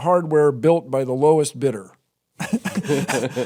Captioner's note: laughter